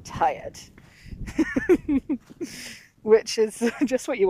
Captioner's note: giggles